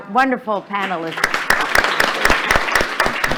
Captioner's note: applause